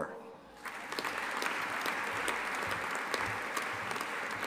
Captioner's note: audience applauding